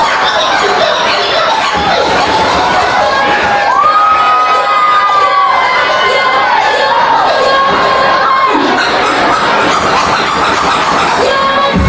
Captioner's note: crowd Cheering; upbeat Music